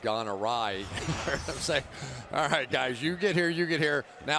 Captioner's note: laughs